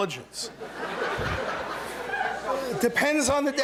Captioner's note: laughter